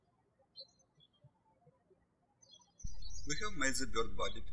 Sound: birds chirping

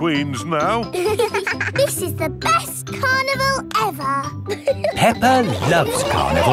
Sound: both giggling

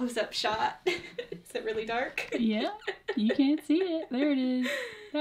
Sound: laughs; laughs

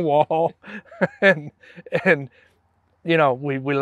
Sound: laughs

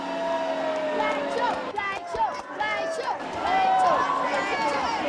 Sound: cheering; chanting

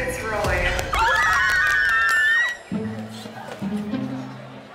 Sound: girls scream

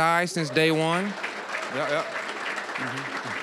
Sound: applause, cheering; applause

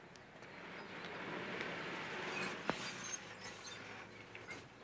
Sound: van engine roars

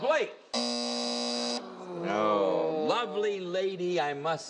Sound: buzzing

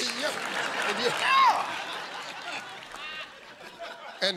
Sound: laughter

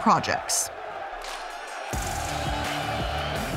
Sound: crowd cheering; upbeat music

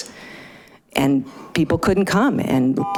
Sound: buzzer chiming

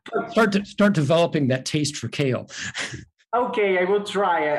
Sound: laughing

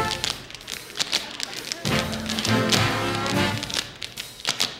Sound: music and tapping; intermittent laughter; music and tapping

